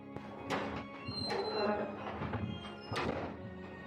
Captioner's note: door opening